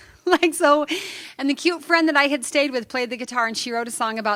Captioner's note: laughter